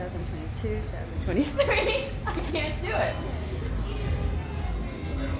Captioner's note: laughs